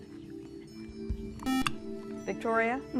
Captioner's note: buzzer